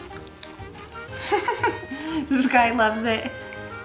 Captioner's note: laughs